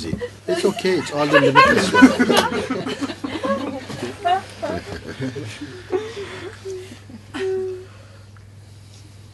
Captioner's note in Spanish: risas